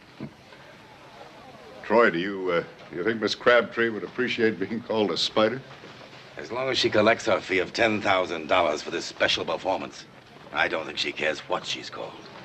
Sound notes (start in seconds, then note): none